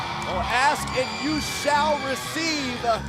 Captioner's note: crowd cheering